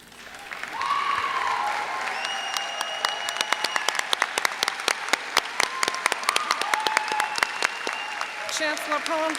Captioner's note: applause